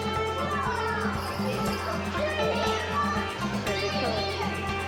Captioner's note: people chattering